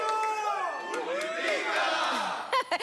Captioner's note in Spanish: Exclamaciones